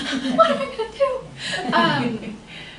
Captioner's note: laughter